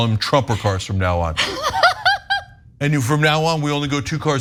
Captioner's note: laugh